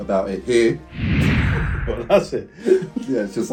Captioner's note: whoosh